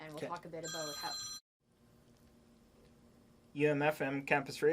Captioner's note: phone ringing